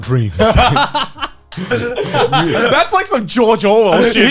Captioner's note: Garnt laughing